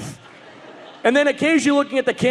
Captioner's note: audience laughing